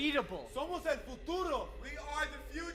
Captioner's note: speaking Spanish